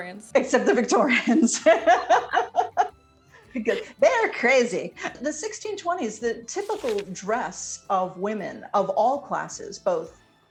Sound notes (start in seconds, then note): 1.0 both laugh